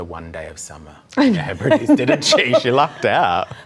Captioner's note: laughs